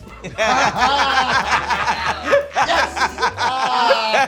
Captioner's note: laughter